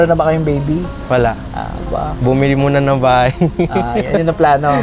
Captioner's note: laughs